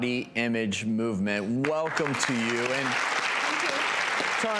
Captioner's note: audience applauding